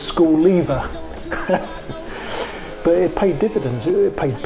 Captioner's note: chuckles